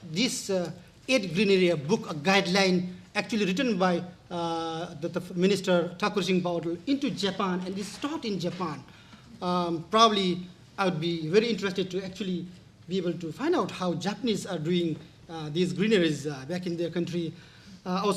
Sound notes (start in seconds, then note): 6.0 speaking in foreign language